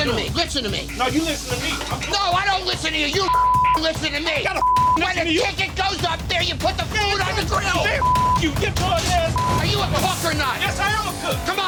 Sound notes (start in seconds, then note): 4.6 beep; 9.3 beep